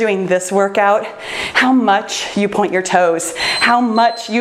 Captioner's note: timer beeps